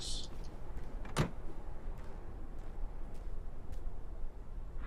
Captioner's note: car door closes, footsteps continue